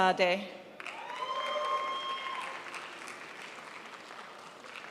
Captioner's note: crowd applauds